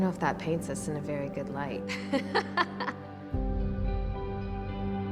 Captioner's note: laughs